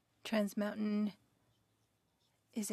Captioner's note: speaking French